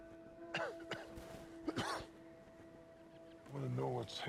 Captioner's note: coughing